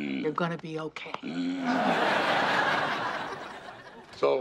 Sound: grunts

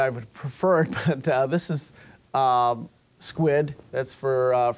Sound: chuckling

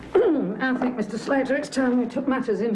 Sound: clears throat

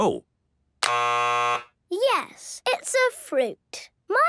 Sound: buzzes

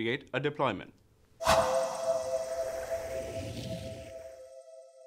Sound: whoosh

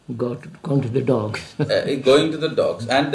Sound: laughs

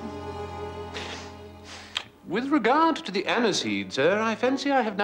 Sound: sniffs

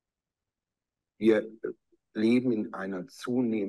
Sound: speaking german

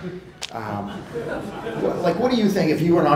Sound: crowd laughing

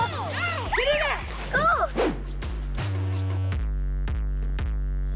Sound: cheering and encouragement

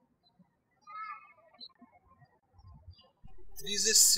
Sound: birds chirping

